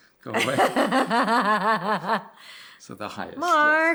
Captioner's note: laughs